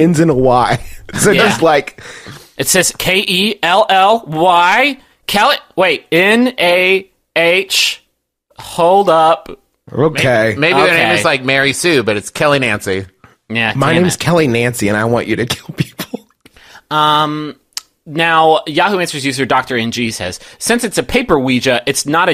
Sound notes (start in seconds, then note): 15.3 softly laughing; 17.5 tongue click